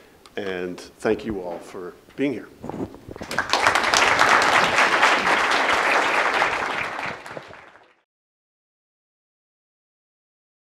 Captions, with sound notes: And thank you all for being here. (audience applauding) (silence)